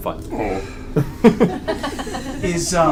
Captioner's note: all laugh